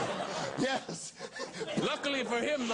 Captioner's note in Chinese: 笑岔